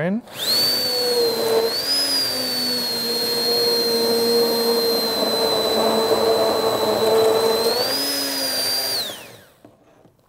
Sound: blender whirring

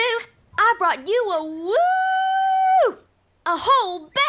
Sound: animal noises

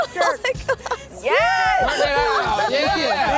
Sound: laughter

